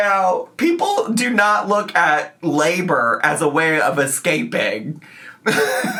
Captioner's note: laughs